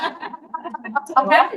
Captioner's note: laughing